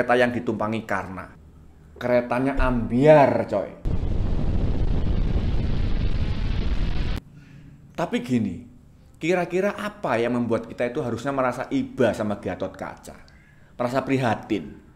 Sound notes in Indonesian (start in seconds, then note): 3.8 meledak